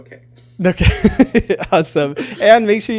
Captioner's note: laughing